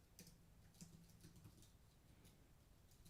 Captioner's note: typing